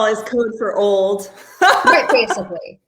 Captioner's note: laughing